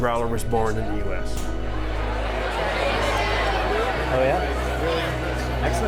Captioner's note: party sounds